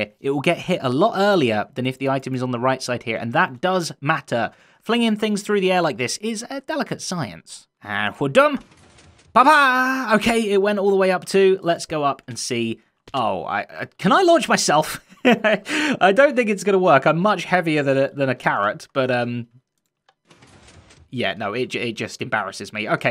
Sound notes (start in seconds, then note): 15.0 chuckles